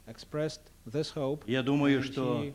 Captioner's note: non-english speech